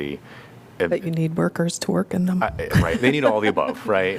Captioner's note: laughter